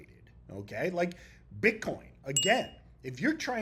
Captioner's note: bell ringing